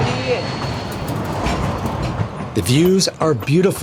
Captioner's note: train chugging